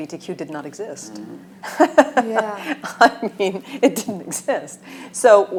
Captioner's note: laughing